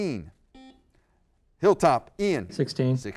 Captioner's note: buzzer